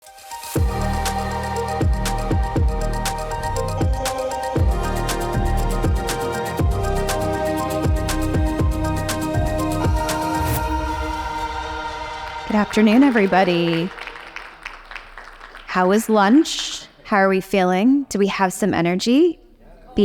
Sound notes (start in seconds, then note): 14.1 audience applauding